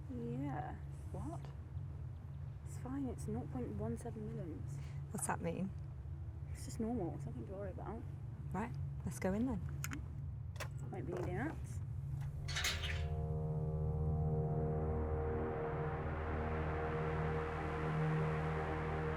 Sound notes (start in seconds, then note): 12.2 gate clanking; 13.0 soft ominous music